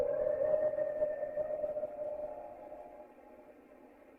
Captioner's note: howling